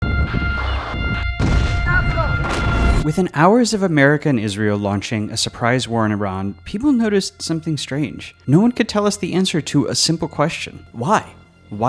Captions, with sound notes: (siren blaring) (bomb exploding) - Within hours of America and Israel launching a surprise war in Iran, people noticed something strange. No one could tell us the answer to a simple question, why?